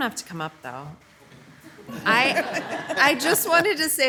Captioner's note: attendees laughing